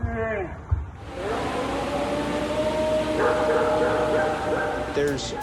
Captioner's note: dog barking; recording howling